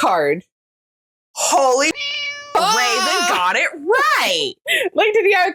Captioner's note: meow